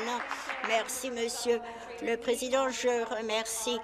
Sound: applause

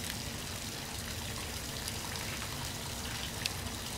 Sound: water running in the background

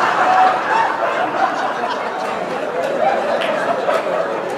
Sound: laughter

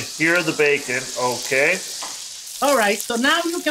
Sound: bacon sizzling

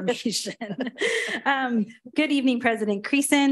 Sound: all laugh

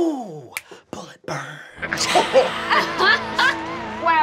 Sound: laughing

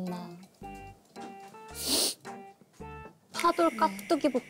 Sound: sniffle

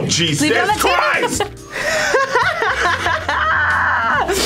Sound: laughs loudly

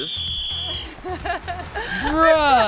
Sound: laughing

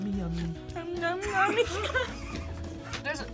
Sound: laughs

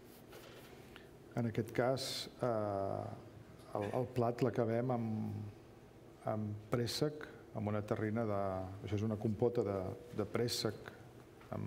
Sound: speaking catalan

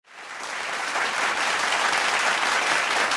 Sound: applause

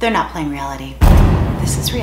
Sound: dramatic Boom

